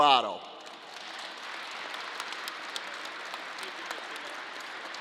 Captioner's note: crowd applause